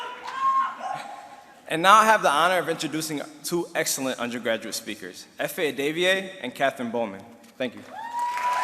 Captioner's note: applause